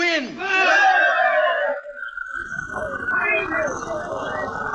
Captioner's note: people cheer